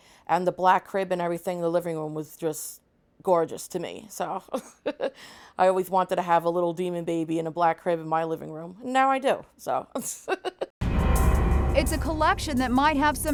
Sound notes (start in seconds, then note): 4.5 laughs; 10.0 laughs; 10.8 horror music